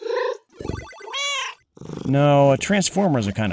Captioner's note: meow